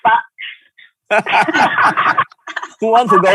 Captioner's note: laughing